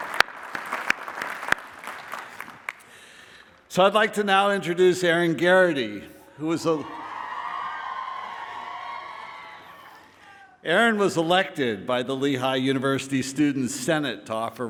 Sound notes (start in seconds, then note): 6.4 cheering